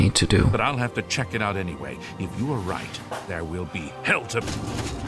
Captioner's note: NPCs chatting